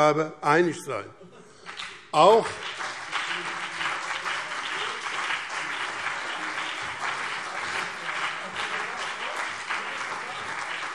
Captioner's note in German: Beifall CDU und BÜNDNIS 90/DIE GRÜNEN